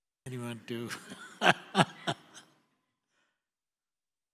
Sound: laughs

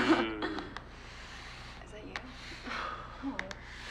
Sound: friends laughing

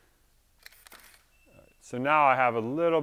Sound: camera shutter clicks

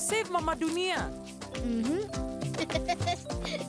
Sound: chuckling

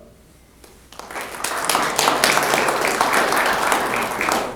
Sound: applause

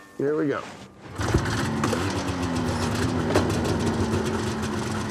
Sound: engine revving

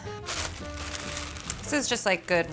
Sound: crackling

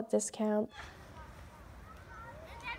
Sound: children playing

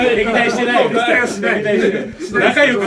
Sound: laughs

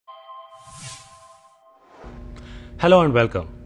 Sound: sound effect

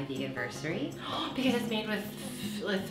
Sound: gasps

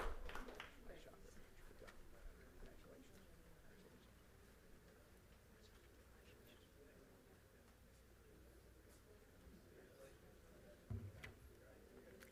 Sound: applause; group chatter

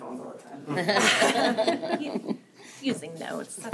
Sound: laughter

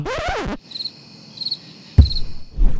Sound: crickets

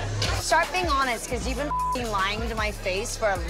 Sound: beep

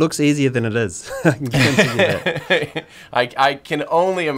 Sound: both laughing

